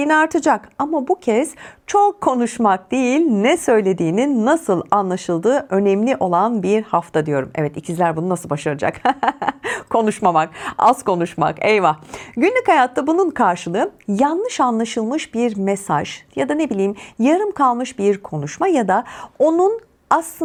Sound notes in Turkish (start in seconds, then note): 8.9 kahkaha